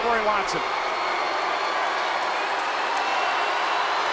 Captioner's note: crowd booing